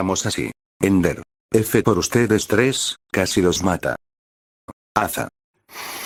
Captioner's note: breath_01